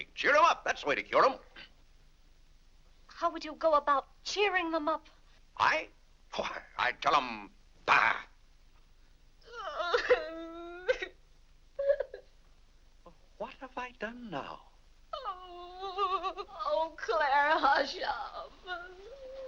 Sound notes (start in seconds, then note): 9.4 Vinnie cries; 14.8 weeping; 19.2 soft sad music